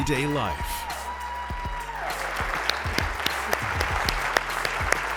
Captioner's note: audience applauds